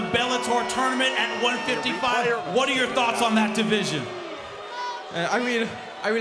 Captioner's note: crowd cheering and booing